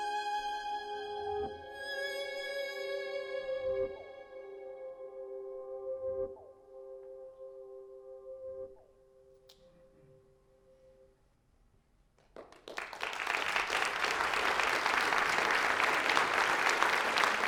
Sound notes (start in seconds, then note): 12.1 applause. interval